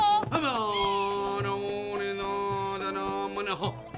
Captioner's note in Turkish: i̇rki̇lme sesleri̇